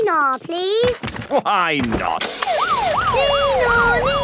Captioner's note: siren sounding